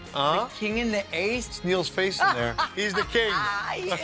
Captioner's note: laughing; laughs